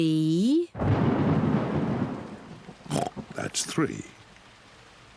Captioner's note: thunder rumbles; oinks